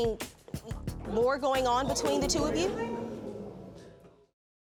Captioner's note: audience murmurs